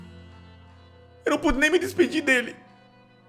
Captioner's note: crying